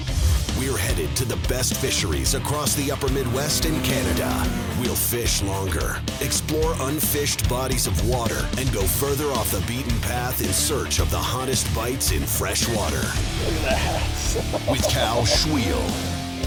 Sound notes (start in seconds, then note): 13.2 laughs; 13.3 voiceover